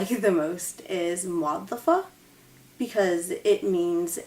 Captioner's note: speaks Arabic